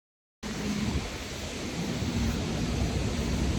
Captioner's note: wind blows loudly, gusts